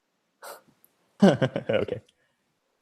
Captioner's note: chuckles